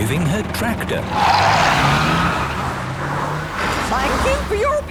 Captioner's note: tires screeching